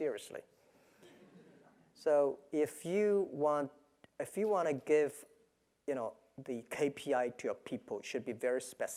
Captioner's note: laugh